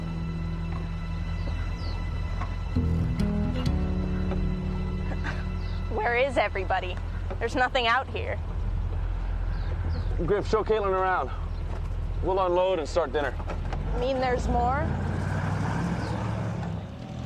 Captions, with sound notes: - (chuckles) Where is everybody? There's nothing out here. - Griff, show Caitlin around. We'll unload and start dinner. - Mean there's more?